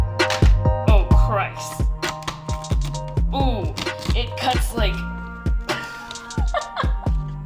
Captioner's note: laughing